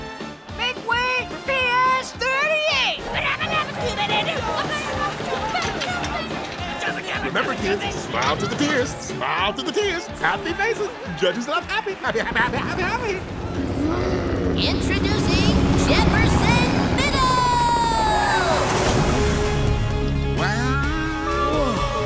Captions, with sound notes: Big wave PS 38! [singing] Remember, kids, smile to the kids. Smile to the kids. Happy faces. Judges love happy. Happy, happy, happy, happy. [roaring] Introducing Jefferson Middle! - Wow. - Whoa.